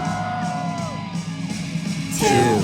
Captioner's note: cheering